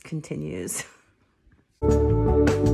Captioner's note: laughing; bright upbeat music